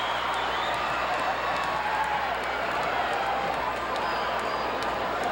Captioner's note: audience cheering continues